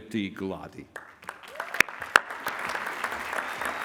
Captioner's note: applause